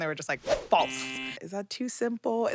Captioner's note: buzzer blares